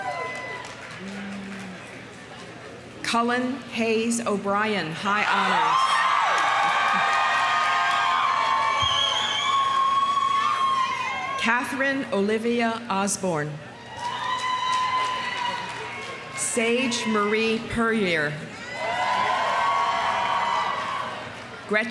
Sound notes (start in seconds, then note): 0.0 audience cheering; 0.0 audience applauding; 5.4 audience cheering; 6.0 audience applauding; 13.8 audience cheering; 13.9 audience applauding; 18.6 audience cheering; 18.8 audience applauding